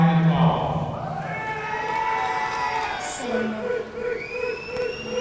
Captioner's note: audience cheering